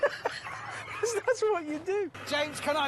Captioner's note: both laugh